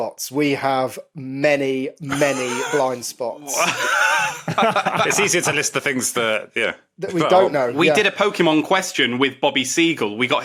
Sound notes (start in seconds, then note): 3.4 laugh